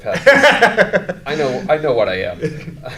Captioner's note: laughs